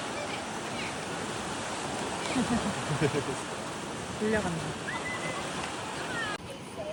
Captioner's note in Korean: 첨벙